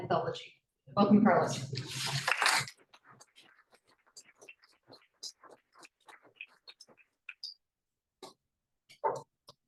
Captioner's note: appluse